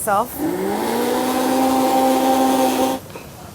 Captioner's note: whirring